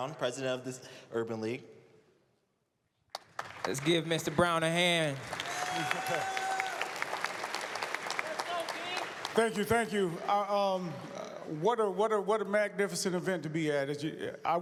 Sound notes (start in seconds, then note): 5.4 applause, cheers